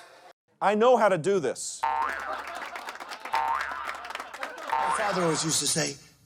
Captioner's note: crowd laughing; spring boinging